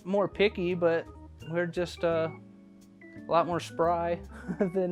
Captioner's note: laughs